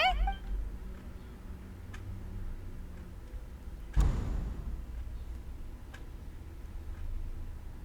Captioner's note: door opens